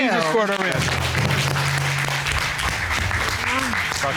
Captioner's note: cheers and applause